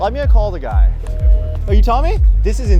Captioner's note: phone busy signal